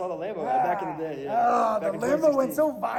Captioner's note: groans